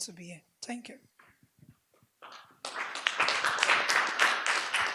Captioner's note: audience applauds